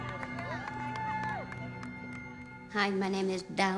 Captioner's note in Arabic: هتاف